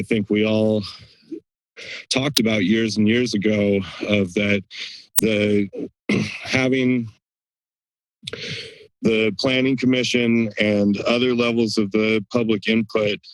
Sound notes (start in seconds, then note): 6.1 clears throat; 8.2 breathes